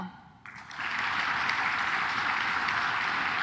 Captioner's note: claps